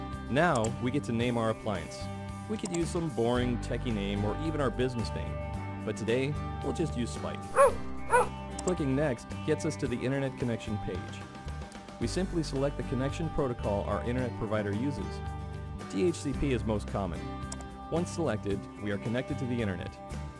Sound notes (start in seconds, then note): 7.5 dog barking